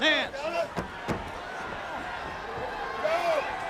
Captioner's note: crowd chatter